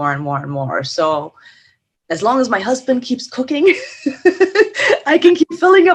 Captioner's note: laughs